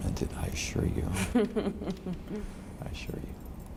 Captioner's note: laughs